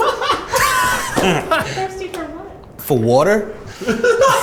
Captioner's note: laughs